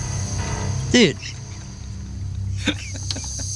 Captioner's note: laughing